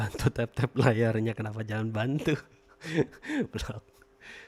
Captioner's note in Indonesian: tertawa